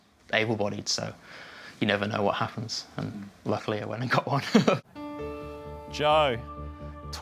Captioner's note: laughs